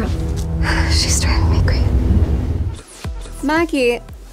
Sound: whispers

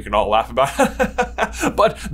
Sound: sensible chuckle

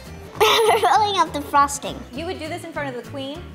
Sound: laughs

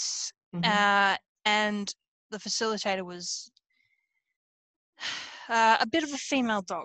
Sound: laughs

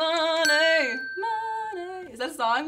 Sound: bell rings

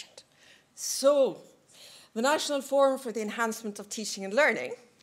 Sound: none

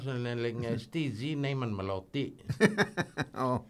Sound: both laugh

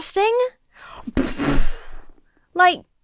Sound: imitates explosion

